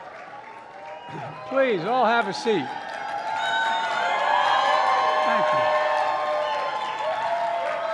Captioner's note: applause; applause